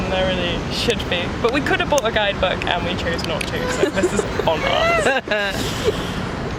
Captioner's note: laugh